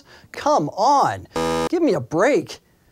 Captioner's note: buzzer